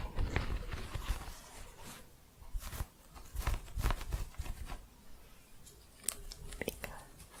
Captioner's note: quick scratching